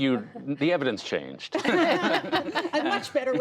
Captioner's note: laughter